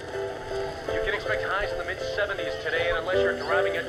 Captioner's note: radio